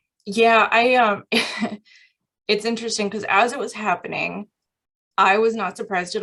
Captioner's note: laughter